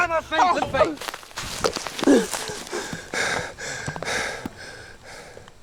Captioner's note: panting